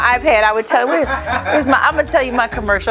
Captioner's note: man laughing